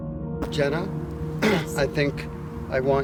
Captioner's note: clears throat